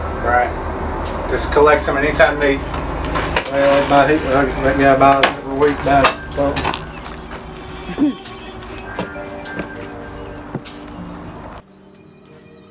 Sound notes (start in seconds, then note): 7.8 laughing